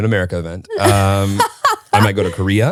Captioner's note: laughs